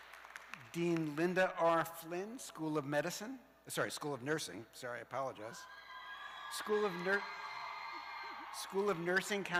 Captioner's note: cheers and applause